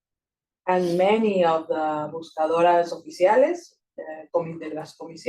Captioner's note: speaking Spanish